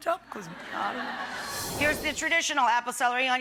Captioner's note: audience laughing